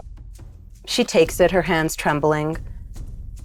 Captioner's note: none